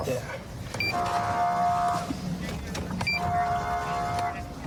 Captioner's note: horn blaring